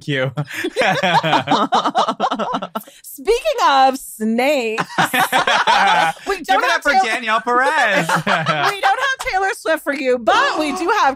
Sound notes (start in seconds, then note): 7.6 laughs